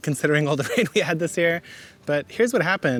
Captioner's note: laughing